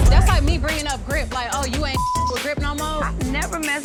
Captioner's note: beep